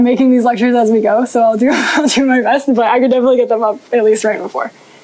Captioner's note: chuckles